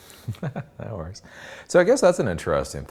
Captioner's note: laughs